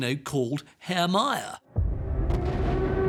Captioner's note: sirens